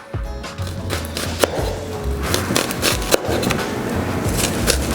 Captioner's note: chopping